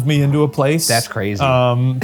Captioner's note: chuckling